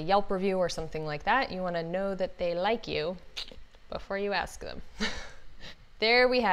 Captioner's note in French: rires